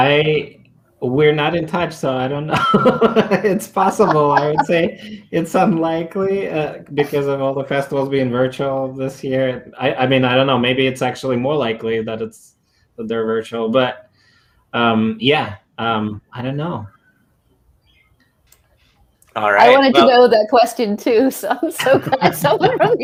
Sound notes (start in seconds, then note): 2.5 chuckling